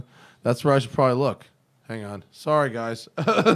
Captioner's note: laughter